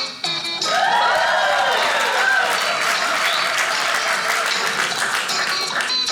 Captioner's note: audience cheering